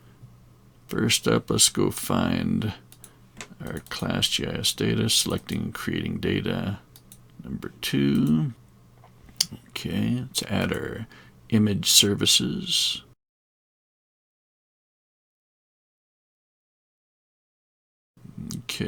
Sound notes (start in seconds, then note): 13.7 silence